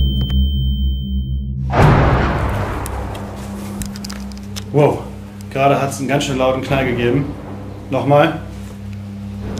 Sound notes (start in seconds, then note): 1.6 bang